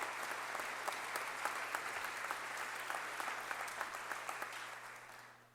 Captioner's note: applause